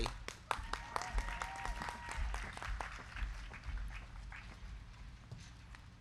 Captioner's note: crowd clapping; crowd cheering